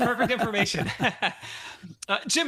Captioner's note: laughs